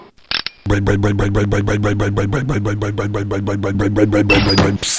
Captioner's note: click; rumbling motor; clank; hiss